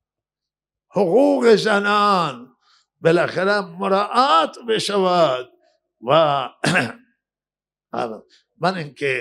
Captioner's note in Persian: گلویش را صاف می‌کند